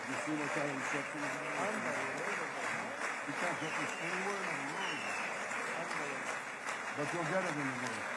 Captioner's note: applause